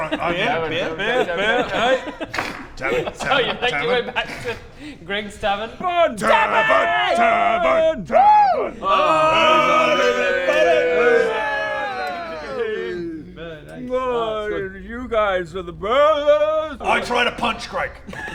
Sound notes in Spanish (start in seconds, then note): 8.9 Gritos borrachos